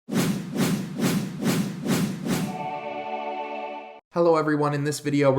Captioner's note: repetitive whooshing sound